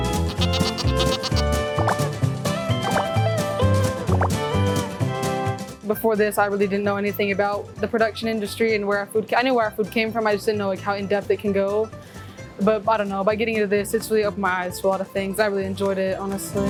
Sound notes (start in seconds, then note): 0.0 goats braying; 0.0 upbeat music continues; 1.7 graphics popping